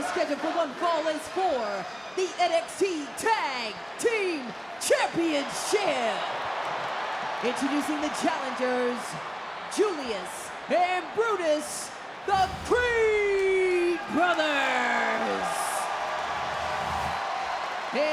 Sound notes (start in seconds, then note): 6.2 audience cheering; 15.3 audience cheering